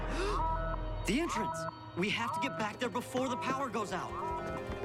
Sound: gasps; alarm blaring

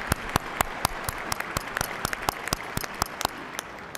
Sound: applause

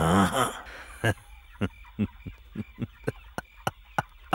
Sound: laughs

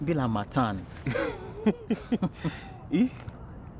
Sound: laughter

